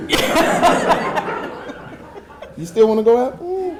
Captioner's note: audience laughing